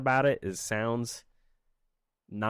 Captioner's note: silence